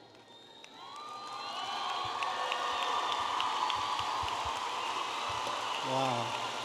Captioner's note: audience applauding and cheering